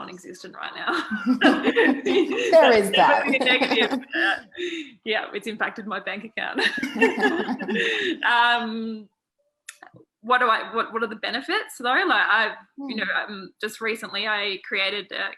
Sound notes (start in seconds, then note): 0.9 laughter; 6.6 laughter